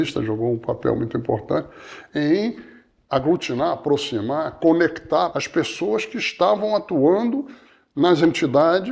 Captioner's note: none